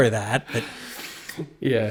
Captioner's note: laugh